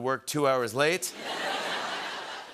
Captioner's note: laughter